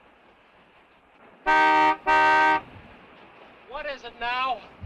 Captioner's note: horn honking